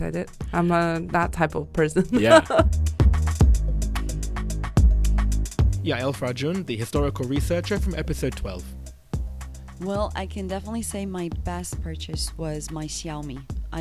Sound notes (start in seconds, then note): 3.8 voiceover